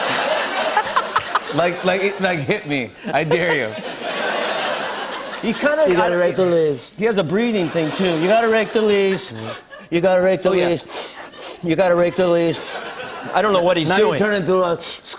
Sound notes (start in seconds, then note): 3.0 laughter; 9.3 sniffling; 14.2 sniffles